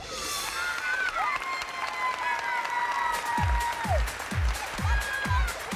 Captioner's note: cheers and applause